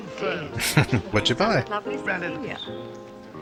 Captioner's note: chuckling